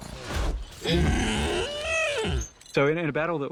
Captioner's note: grunts